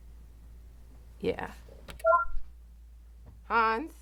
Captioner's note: soundboard beeps